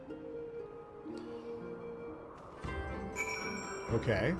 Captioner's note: bell rings